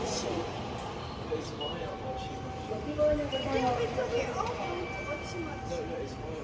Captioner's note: high-speed train